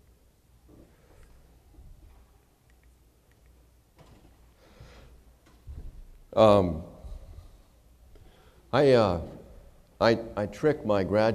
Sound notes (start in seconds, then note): none